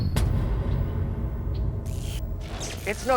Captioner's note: buzzing and crackling